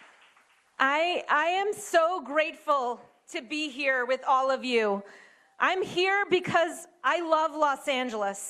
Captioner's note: applause